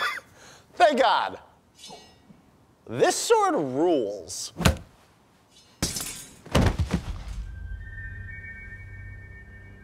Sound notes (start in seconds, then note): 4.2 thunk; 5.4 sword clatter; 6.4 thud